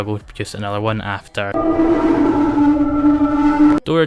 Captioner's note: distortion